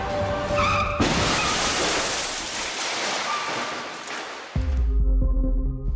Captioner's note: crashing